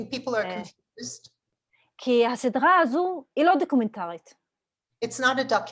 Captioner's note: Hebrew